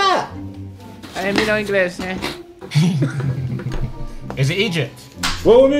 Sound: mumbles

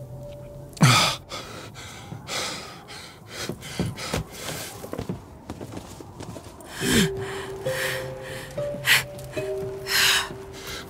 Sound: panting; laughing

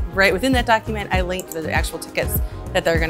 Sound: mouse clicking

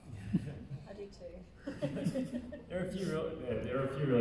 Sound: laughing

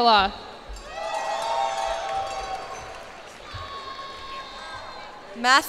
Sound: cheers and applause

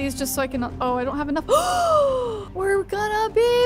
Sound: gasping

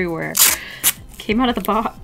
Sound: shrip-rip

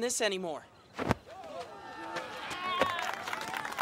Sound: cheering

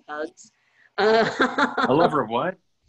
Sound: laughter

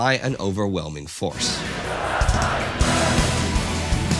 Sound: crowd

